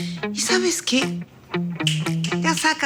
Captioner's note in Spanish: Chasquidos